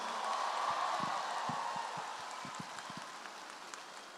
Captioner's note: audience applauds